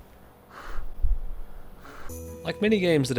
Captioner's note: heavy exhaling